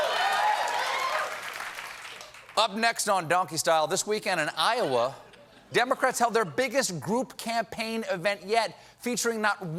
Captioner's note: cheers and applause